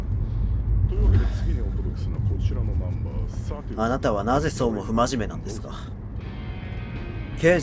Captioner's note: sigh